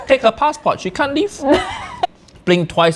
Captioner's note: laughing